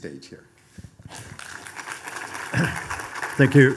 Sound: audience applauding

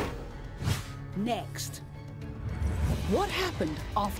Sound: voiceover

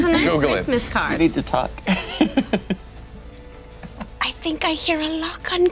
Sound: laughing

